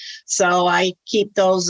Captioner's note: none